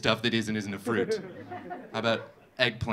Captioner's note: audience laughing